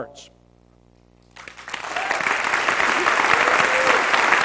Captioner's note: applause